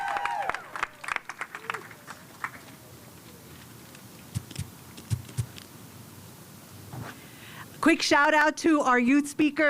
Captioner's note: cheers and applause